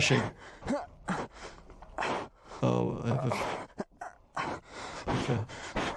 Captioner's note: male voice breathing heavily